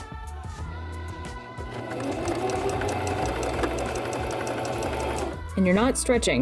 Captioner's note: sewing machine noises